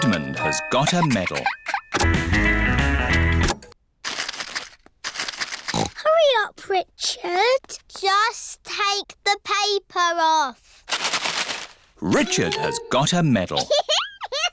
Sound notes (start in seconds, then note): 3.6 music stops; 5.6 snorts